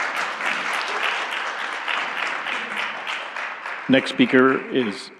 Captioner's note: applause